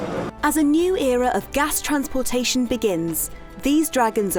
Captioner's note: voiceover